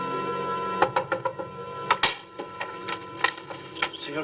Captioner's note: knocking on door